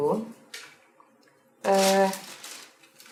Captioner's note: more ruffled plastic noise